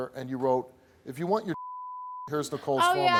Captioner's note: beep